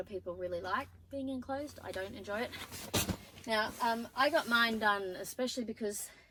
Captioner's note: bag thuds onto tent floor